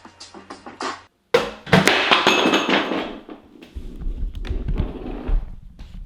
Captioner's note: hip hop beat; kitchen tools banging